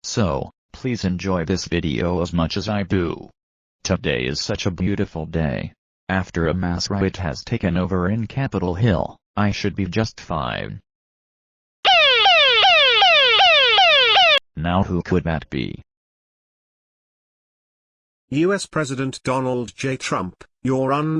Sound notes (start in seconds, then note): 11.8 siren sound